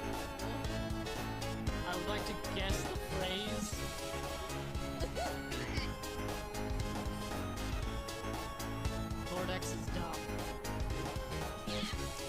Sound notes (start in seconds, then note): 7.8 sigh